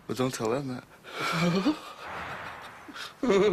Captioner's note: laughing